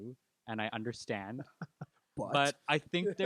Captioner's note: laughing